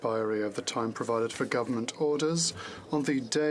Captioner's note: speaking French